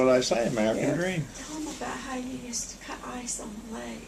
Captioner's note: quietly